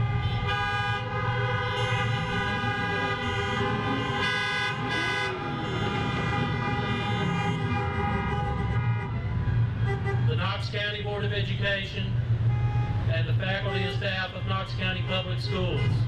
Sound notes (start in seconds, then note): 0.2 horns honking; 5.0 car engine revving